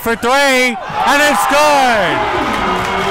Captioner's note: crowd cheers